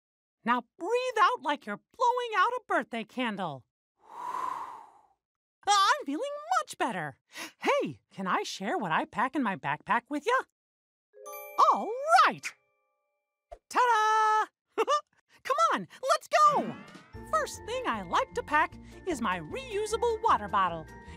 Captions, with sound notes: Now breathe out like you're blowing out a birthday candle. ( exhales ) I'm feeling much better! Hey, can I share what I pack in my backpack with you? All right! Ta-da! Come on, let's go. First thing I like to pack is my reusable water bottle.